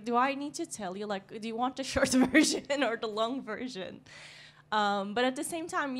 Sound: laughs

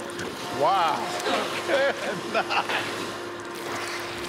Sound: laughs

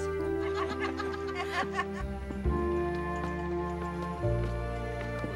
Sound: laughter

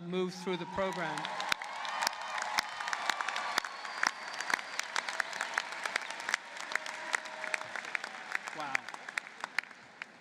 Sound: applause

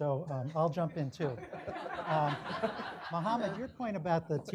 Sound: audience laughing

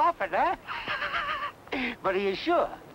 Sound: Malamos laughing

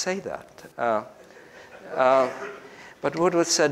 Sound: group laughs

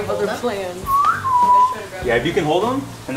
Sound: whistles softly

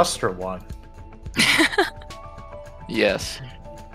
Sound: laughs

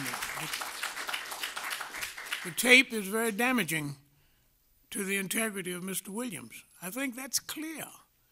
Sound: applause

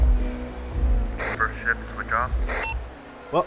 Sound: radio

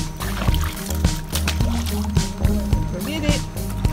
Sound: toy splashes

